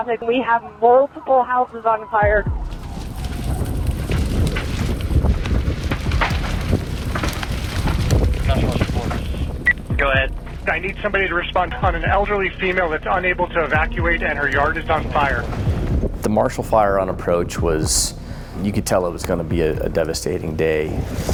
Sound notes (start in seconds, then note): 2.4 flames roar; 3.2 wind blowing